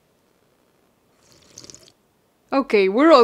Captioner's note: slurping